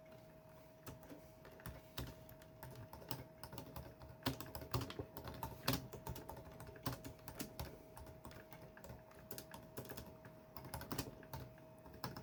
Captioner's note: typing on the keyboard